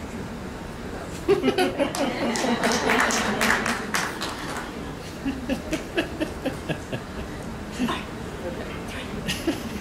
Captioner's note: laughter and applause